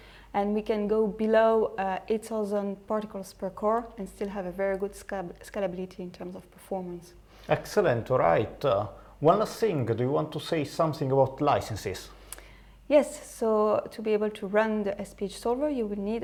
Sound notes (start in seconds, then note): none